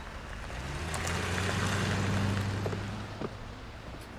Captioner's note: car revs off